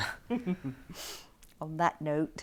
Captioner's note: Aquila laughs